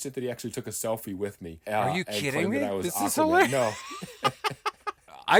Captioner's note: laughing